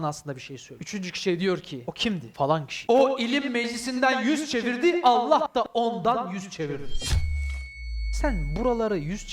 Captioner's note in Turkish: Kuvvetli ve yankılı bir sesle; Giyotin sesi